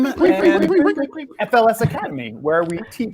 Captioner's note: all echoing